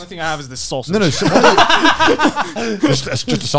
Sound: laughing

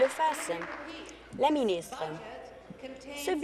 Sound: applause

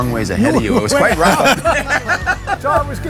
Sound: laughing

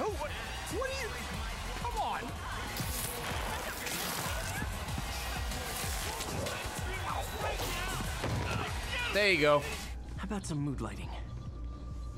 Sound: laughs

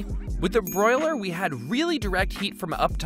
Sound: bell dings

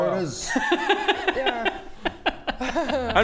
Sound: judgemental laughter

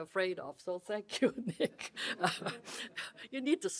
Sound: laughs

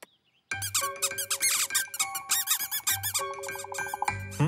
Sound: squeaking

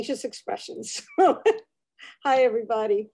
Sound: chuckles

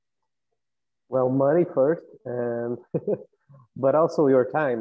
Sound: laugh

